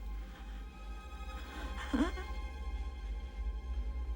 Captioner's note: gasping Slows